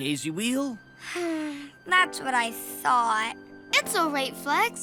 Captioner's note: sigh